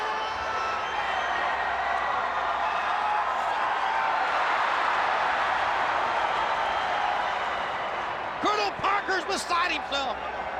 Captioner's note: crowd cheering